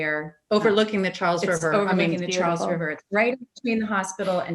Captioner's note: audio warps